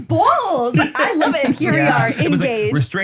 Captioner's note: laughs